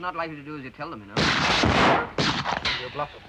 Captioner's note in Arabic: طلقات نارية